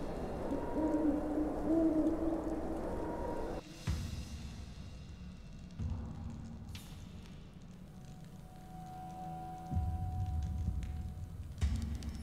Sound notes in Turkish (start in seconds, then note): 0.0 Baykuş ötüyor